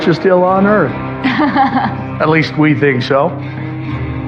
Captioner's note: chchucuckle